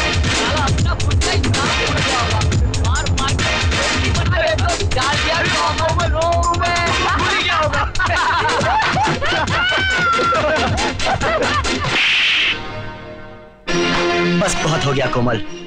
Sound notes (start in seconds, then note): 11.8 slapping